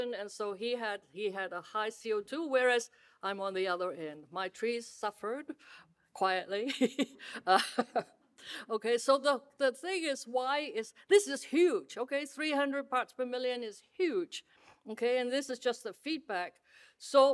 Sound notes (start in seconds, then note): 7.4 laughs